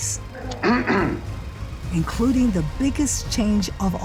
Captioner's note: clears throat